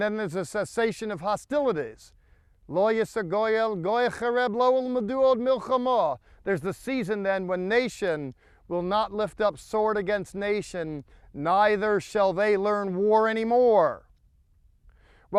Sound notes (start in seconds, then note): 2.8 speaking in Hebrew